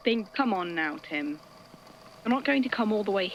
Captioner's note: audio crackles